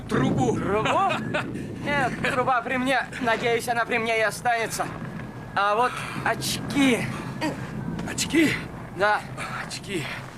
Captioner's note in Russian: смех